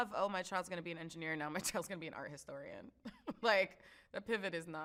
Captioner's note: chuckles